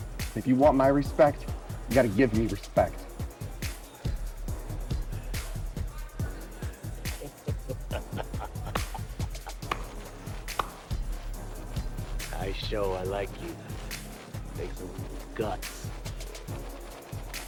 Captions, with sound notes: If you want my respect, you gotta give me respect. (upbeat music) (person laughing) - Nice show I like you, some guts.